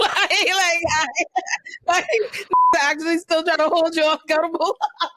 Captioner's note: laughter